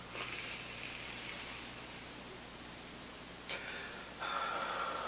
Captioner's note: both breathing deeply